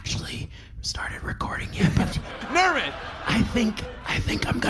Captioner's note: shouting